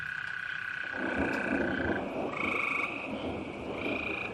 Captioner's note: thunder rumbling